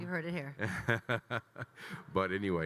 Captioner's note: Kyle laughing